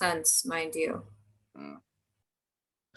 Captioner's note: grunt